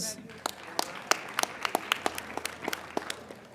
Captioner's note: applauding